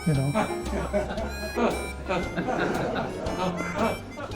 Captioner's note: laughter